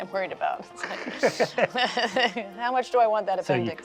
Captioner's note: laughs